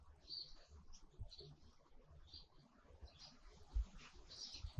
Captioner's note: birds chirping